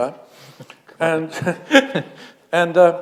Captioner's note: chuckle